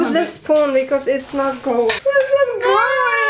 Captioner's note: panic noise